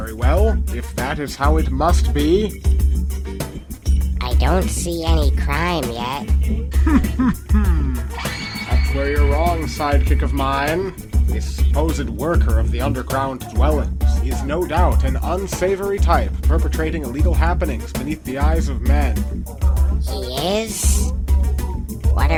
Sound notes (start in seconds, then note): 6.7 confident Chuckling